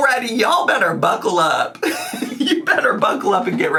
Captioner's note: laughs